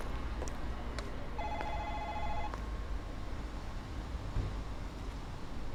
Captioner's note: ding-dong